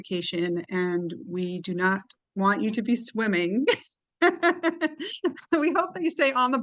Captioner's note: laughs